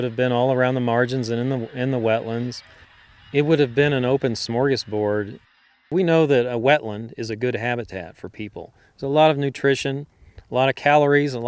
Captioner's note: geese honking